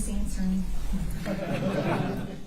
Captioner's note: laughter